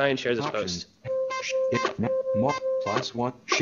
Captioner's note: electronic beeps